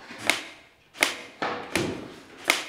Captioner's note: softer knocking